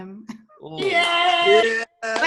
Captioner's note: group cheers